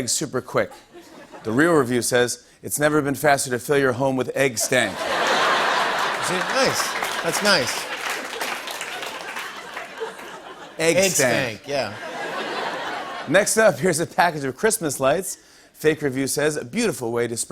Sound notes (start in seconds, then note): 7.6 laughter